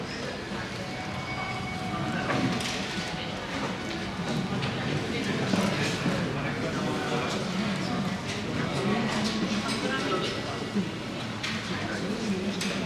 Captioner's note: bells